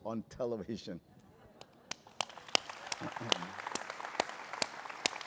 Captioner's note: applause